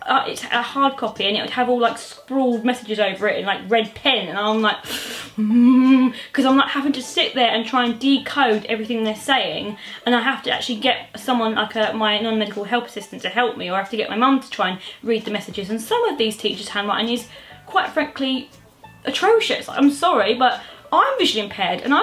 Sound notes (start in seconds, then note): 5.3 angry moaning noise